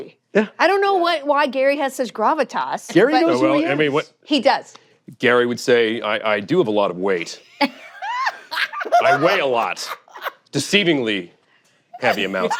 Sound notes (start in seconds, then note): 7.5 laughter